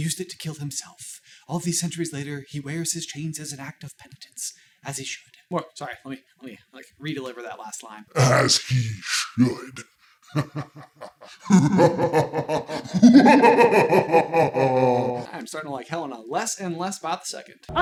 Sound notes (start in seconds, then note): 10.3 demon-y evil laughter